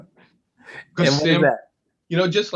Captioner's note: laugh